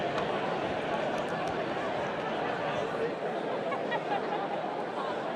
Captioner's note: indistinct chatter continues